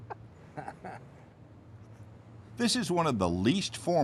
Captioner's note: woman laughs